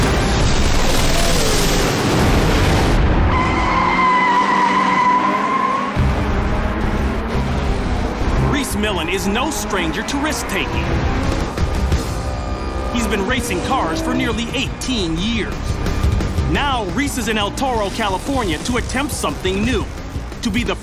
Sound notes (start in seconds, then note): 3.2 tires squealing